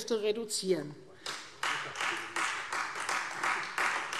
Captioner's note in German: Beifall Freie Demokraten